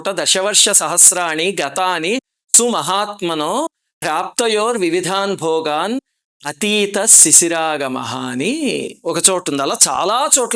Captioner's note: reciting verse